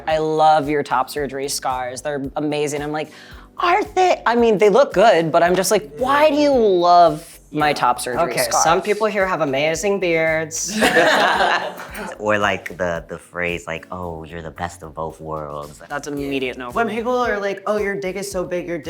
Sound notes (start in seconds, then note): 10.6 group laughing